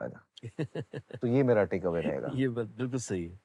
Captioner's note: laughs